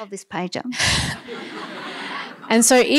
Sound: laughter

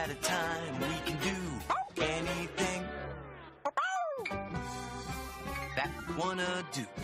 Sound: barks

